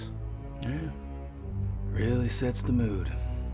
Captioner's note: says sarcastically